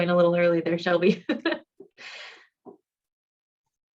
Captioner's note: laughter